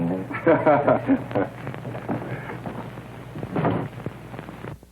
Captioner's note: laughter